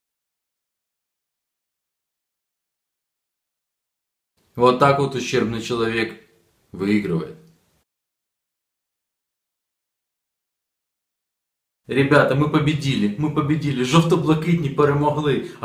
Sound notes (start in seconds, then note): 5.2 Ukrainian; 9.9 Ukrainian